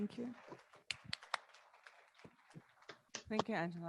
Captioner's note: audience clapping